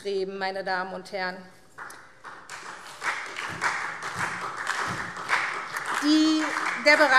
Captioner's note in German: Beifall SPD